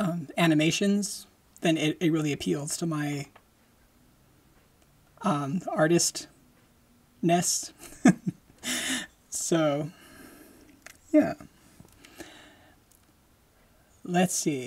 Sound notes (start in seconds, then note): 7.8 laughing